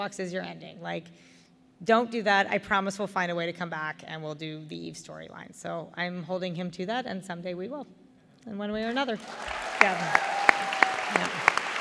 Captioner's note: applause